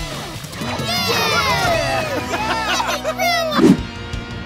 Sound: cheering

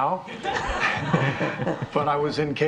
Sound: all laughing

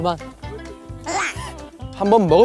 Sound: haha

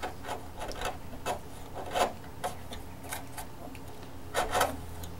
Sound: wood scraping

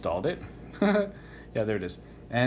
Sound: giggles

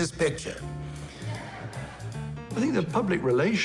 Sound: audience laughs

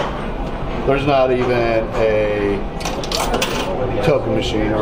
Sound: coin clinks

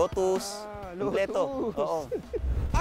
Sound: chuckles

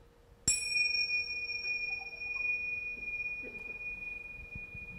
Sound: bells

